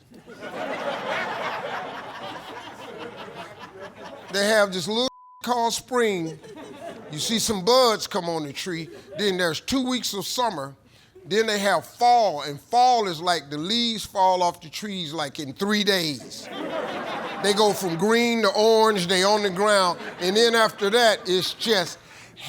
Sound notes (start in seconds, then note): 0.1 laughter; 5.0 beep; 16.2 laughter